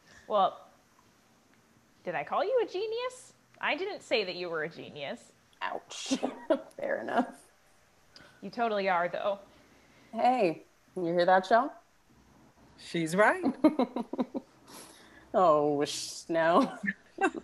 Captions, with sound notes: Well, did I call you a genius? I didn’t say you were a genius. Ouch, fair enough - You totally are though. Hey, you hear that Chelle? She’s right. (laughs) Oh whisht now.